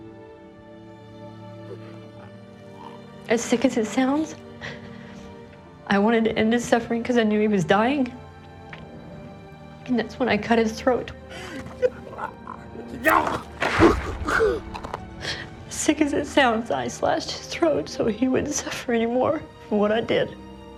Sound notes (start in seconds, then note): 11.2 gasps